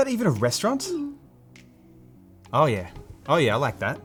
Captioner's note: blooping